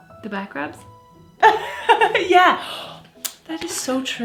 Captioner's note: laughs